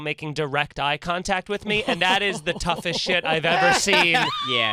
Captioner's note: Nikki laughs